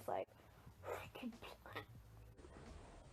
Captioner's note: gross liquid splashing noise